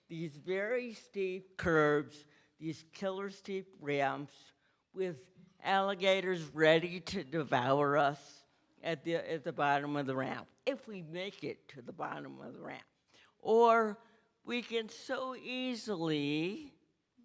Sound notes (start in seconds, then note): none